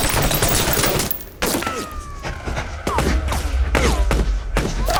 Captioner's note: bullets whizzing